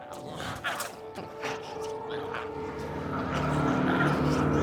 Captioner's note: glowzies growling